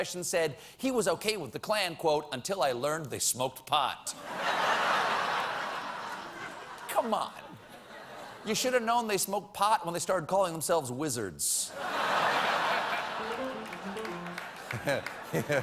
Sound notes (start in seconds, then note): 4.2 laughter; 14.5 laughter; 15.1 piano riff